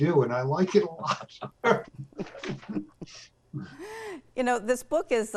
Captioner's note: all laughing